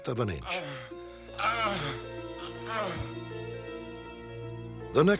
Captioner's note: groaning